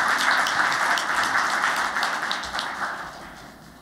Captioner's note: applause